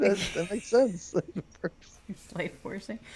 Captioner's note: laughs